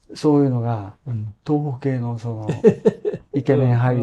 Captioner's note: laughs